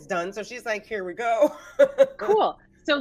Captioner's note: laughs